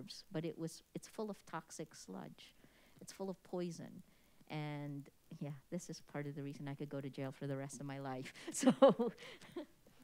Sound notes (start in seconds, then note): 8.4 chuckles